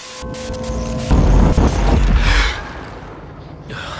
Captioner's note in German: Schräge Geräusche, Erschreckenslaute